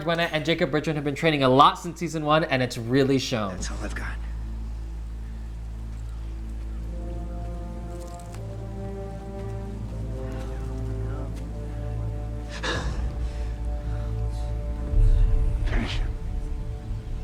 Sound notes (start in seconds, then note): 5.8 dramatic music; 12.7 Miguel grunts